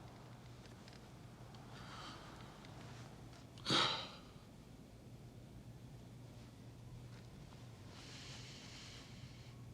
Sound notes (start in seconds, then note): 4.3 exhales sharply